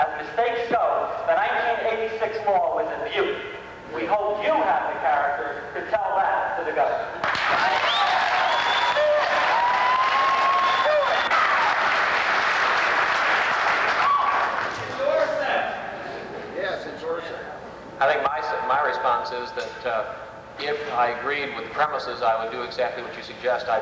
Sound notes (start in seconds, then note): 7.2 applause